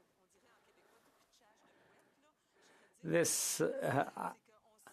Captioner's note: speaking French